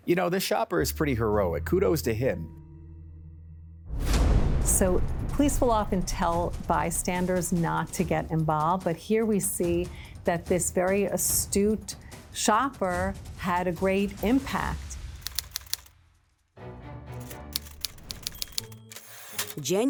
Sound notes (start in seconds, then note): 3.9 dramatic music; 15.2 typewriter typing; 16.6 dramatic music; 17.5 typewriter dings